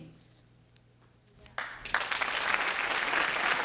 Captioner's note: applause